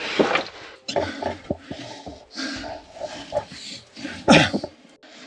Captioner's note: heavy breathing